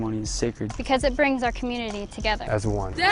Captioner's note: shouting